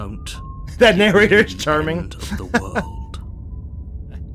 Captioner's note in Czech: smích